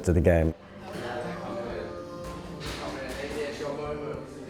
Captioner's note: indistinct chatter